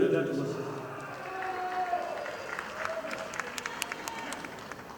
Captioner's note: audience applauding